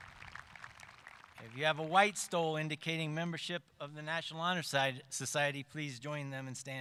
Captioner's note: applause